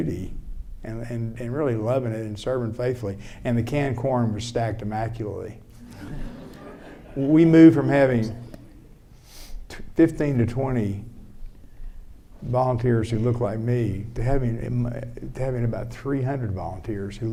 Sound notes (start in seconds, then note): 5.8 audience laughing